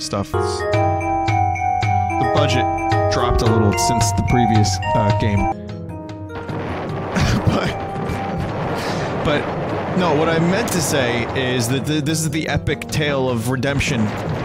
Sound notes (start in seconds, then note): 0.0 piano MIDI Music; 0.1 MIDI Music; 7.1 chuckling